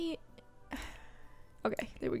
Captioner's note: sighs